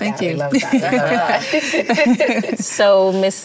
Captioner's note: laughter